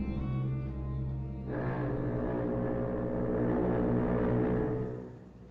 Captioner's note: foghorn Blows